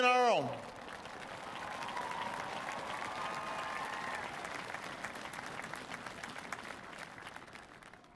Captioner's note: applause